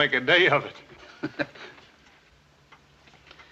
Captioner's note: chuckling